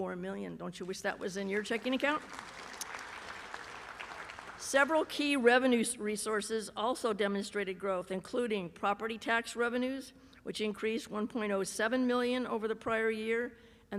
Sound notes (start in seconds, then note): 1.1 applause